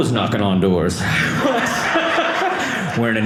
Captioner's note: audience laughing